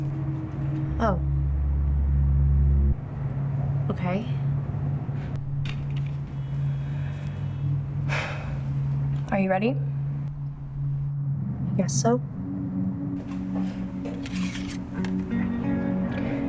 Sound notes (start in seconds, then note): 8.0 exhales; 13.2 card scrapes against wood